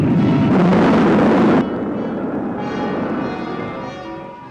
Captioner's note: machines beeping